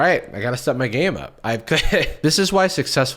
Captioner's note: chuckles